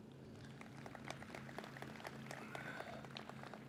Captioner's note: audience claps